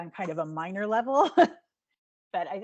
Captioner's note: laughing